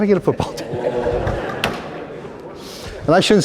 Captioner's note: groaning, laughter